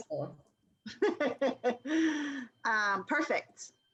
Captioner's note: laughter